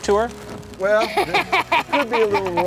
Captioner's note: laughter